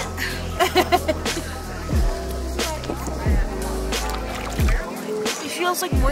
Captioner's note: laughing